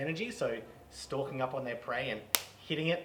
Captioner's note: claps